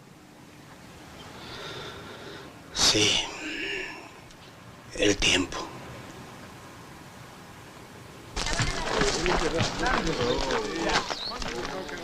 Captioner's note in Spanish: Suspiro